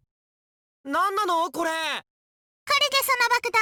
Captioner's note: shout